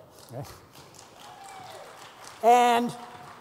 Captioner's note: applause